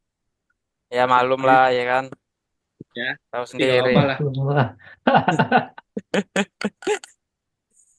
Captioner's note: laughs